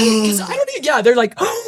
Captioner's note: gasps